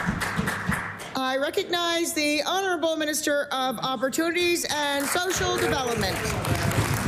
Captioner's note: applause